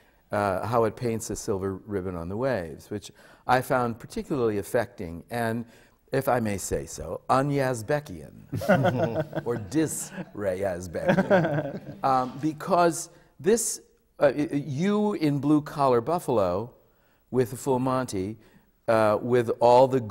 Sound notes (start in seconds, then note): 11.0 laughter